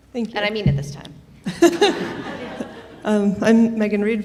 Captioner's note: attendees laughing